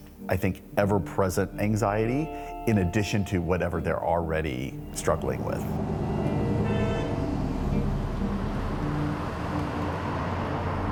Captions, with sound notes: I think, ever-present anxiety in addition to whatever they're already struggling with. (traffic rushing) (horn honking)